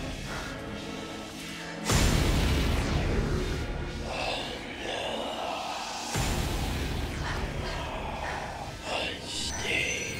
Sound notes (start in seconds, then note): 3.2 muttering in foreign language